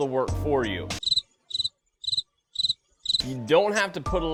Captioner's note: cricket chirps